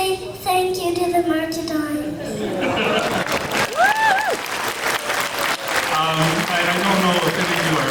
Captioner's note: clapping